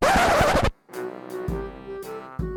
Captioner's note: record scratch